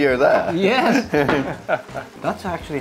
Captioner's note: chuckles